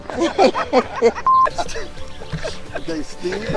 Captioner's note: all laughing; beep